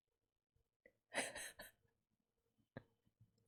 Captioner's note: laughs